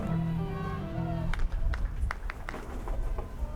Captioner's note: crowd claps rhythmically; crowd